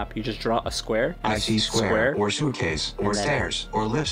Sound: Google voice

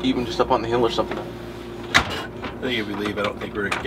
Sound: door slams shut

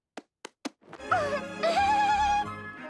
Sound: giggling

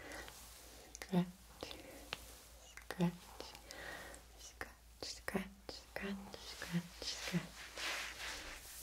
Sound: scratch

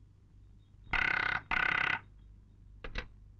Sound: phone ringing

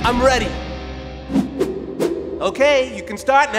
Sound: balls whoosh

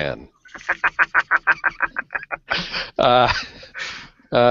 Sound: laughs

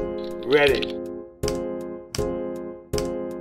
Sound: click

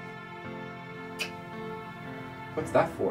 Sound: kisses

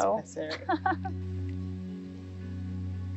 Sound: woman laughing; soothing music

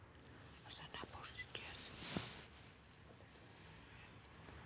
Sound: whispers

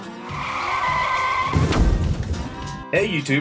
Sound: tires screeching

